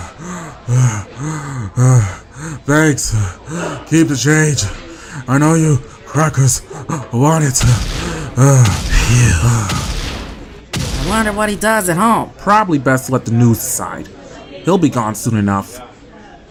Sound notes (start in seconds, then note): 0.0 breathing heavily; 8.6 KFC clerk sighs in relief